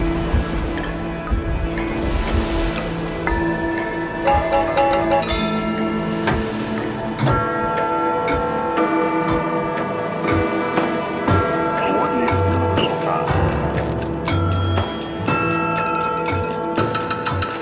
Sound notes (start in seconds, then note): 3.6 bells ringing; 3.6 clocks ticking; 12.6 bell dinging; 12.6 radio crackling